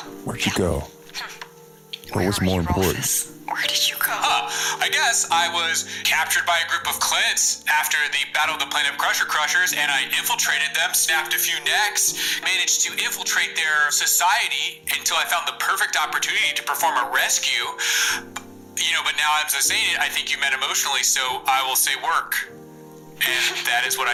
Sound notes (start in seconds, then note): 2.1 hushed; 4.2 sarcastically